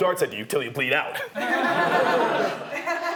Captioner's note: laughing